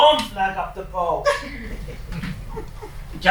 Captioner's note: laughs